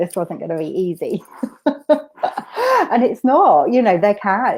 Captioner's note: laughs